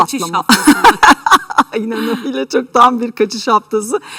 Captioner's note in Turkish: kahkaha